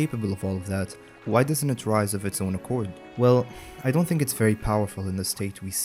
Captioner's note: short sigh